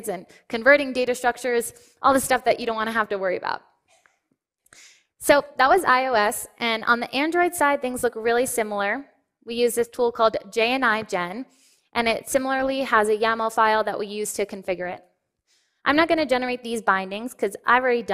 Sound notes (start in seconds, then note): none